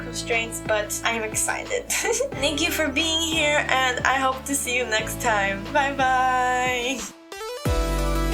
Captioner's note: laugh